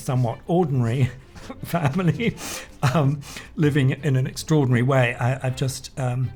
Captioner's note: laughs